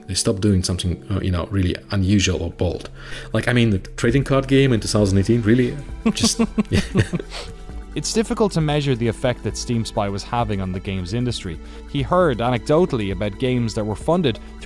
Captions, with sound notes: they stopped doing something really unusual or bold. Like I mean the trading card game in 2018, really? (laughing) - It's difficult to measure the effect that Steam Spy was having on the games industry. He heard anecdotally about games that were funded